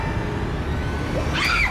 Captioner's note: Cindy screaming